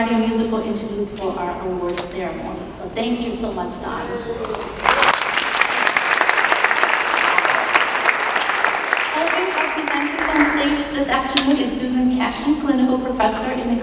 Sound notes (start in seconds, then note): 4.4 audience clapping